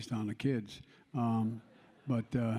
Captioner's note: laughter